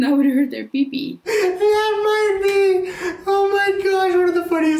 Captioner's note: laughs